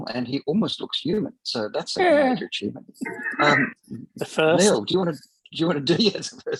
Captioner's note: laughter